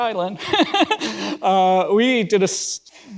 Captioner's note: laughs